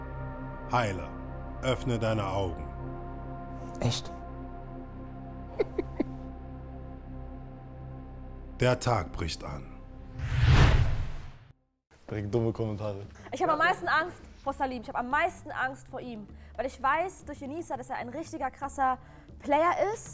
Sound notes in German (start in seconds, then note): 5.5 Jemand kichert; 10.1 Sausendes Geräusch